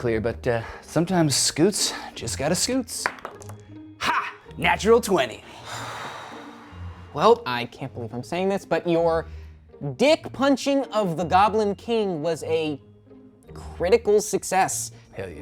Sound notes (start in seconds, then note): 3.0 dice roll; 5.6 all sigh